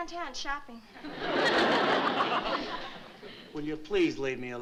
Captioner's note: laughter